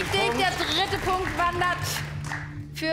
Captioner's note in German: Applaus